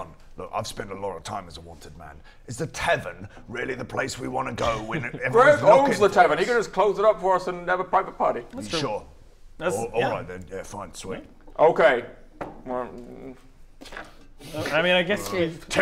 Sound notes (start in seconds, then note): 12.7 sad mumble